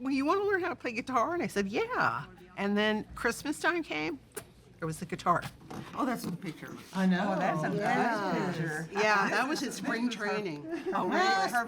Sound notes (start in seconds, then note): 5.0 smacks lips; 11.5 laughing